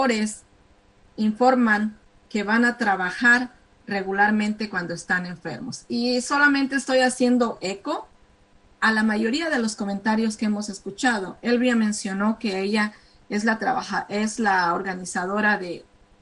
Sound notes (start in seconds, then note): 0.6 speaking spanish